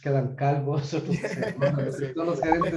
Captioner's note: laughs